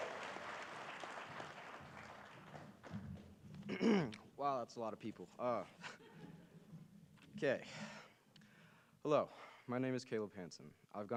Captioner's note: cheering and applause